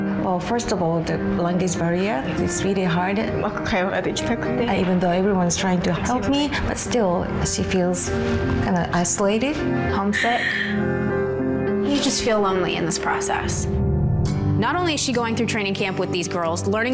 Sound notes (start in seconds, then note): 0.0 speaking foreign language; 3.7 speaking foreign language; 10.1 cries